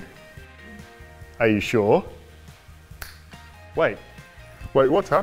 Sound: clicks finger

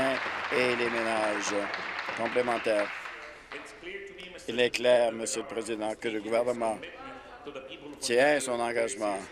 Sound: applause

